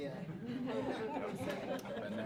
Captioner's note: laughter